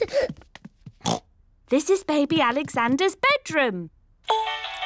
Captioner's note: oinks; mobile playing loud music